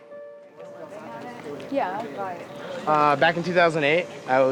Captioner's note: group chattering